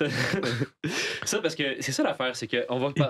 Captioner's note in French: rires